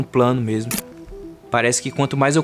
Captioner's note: spark